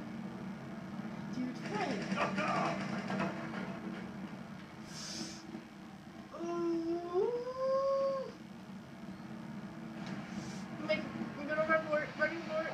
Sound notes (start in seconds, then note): 4.8 inhales